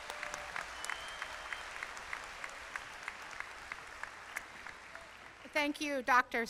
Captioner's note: applause